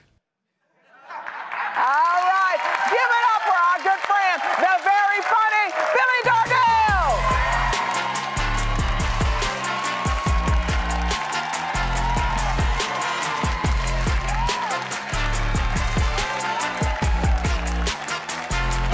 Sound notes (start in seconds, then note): 2.3 applause; 10.4 cheers and applause